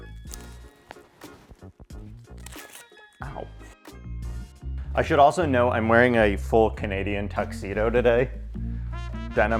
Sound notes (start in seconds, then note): 2.3 tape rips; 3.2 upbeat music continues